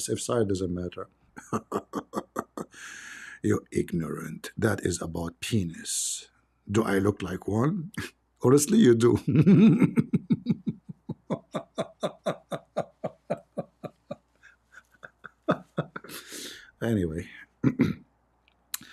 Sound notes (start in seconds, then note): 9.1 Ketawa